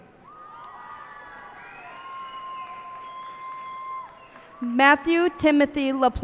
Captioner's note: cheers and applause